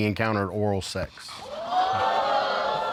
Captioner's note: audience exclaims